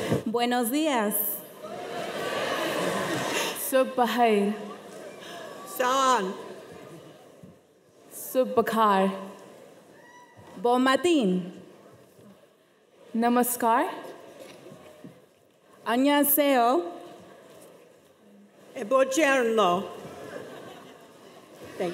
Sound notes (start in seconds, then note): 0.3 speaking foreign language